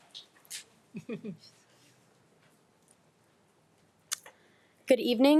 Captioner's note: laughing